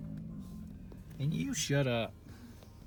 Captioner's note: bison grunting